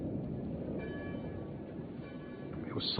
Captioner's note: church bells